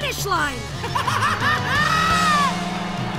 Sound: laughing

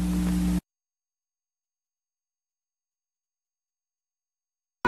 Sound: silence

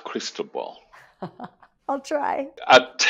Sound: laughs

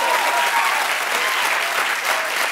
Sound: cheers and applause

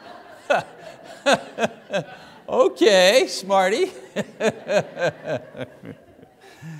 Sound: congregation laughs; laughs

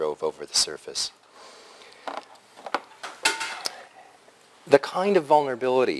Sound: pause

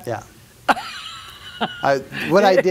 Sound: laughs

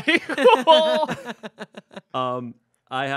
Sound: everyone laughs

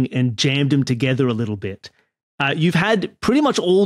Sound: none

